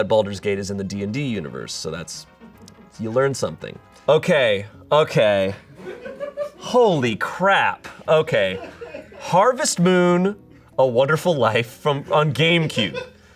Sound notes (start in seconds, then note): 5.7 audience laughing